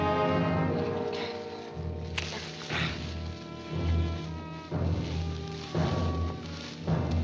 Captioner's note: dramatic music continues; leaves rustling continues